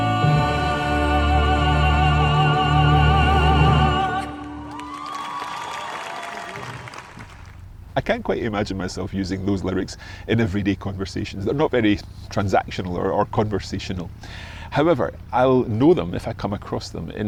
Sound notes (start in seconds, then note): 4.2 audience cheers; 4.2 audience applauds